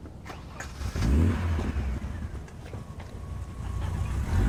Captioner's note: engine rumbling